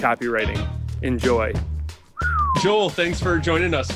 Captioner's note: whistles